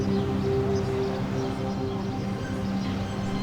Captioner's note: birds chirping